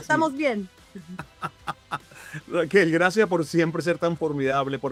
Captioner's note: laugh